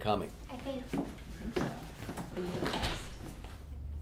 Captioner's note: girls chattering